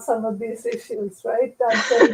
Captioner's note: laughter